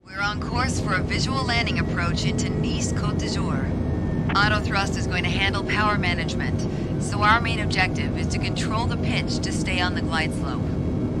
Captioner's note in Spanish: sonidos de cabina de avión